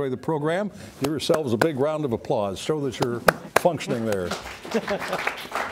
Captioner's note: applause